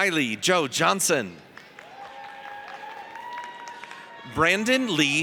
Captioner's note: audience cheers